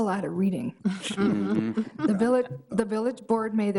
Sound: all laughing

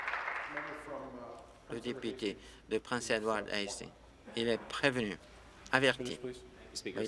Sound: applause

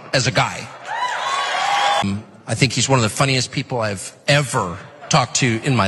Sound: applause

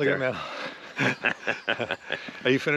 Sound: Conan laughs

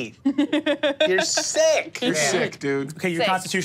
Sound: laughs

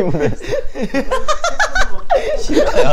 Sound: hahaha hahaha

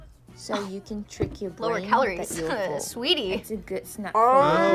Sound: laughs

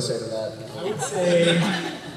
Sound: laughter

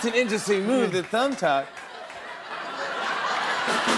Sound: laughter

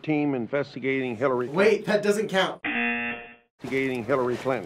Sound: buzzer

